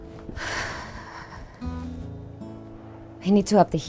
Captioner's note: Giuliana sighs